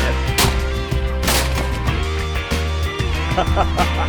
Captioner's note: gun firing; laughter